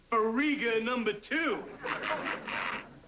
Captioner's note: laughter